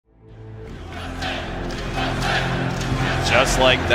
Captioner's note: crowd chanting "USA"